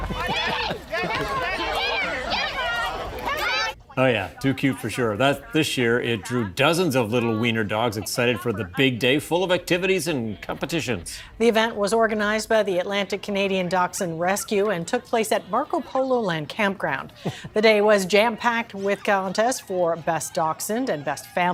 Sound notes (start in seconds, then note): 7.0 crowd noise